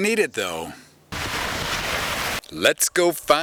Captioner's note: car though puddle